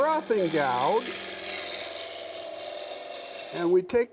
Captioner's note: wood scraping